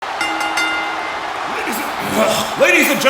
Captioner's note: bell ringing